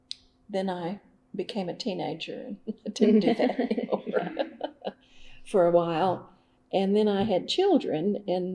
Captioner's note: laughter